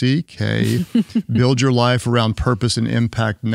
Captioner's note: chuckles